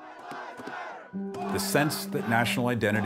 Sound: crowd chanting

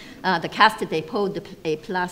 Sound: speaks foreign language

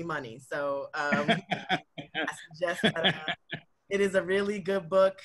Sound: laughs

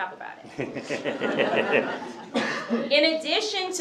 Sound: laughter

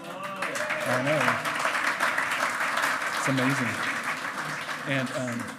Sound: loud clapping

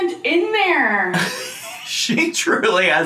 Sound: laughs wheezily

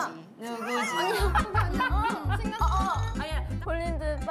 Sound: can't help but laugh

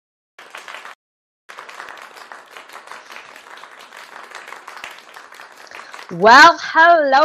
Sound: clapping

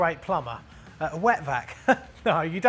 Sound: laughs

